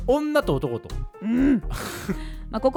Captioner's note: angry noises